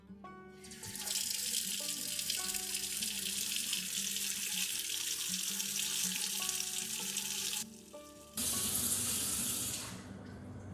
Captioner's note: running faucet sounds